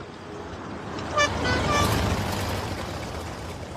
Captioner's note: horn honking